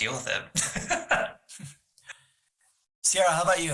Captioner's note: laughs